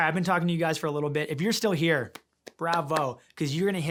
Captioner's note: hands clapping